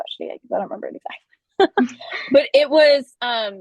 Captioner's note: chuckles